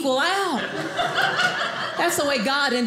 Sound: audience laughing

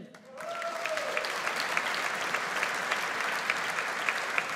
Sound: audience applauds

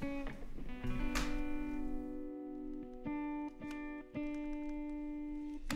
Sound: buttons clicking

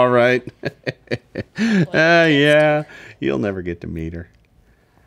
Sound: laughs

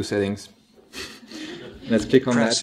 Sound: laughs

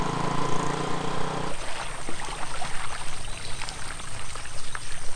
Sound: motorcycle revving; water splashing

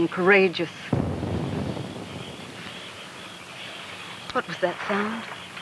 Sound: distant boom rumbles

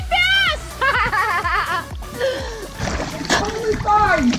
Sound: laughing

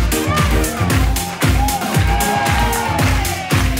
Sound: audience cheers

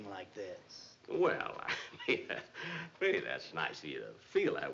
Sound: chuckling

